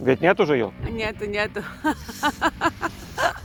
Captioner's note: laughs